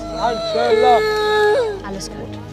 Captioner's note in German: Sie weint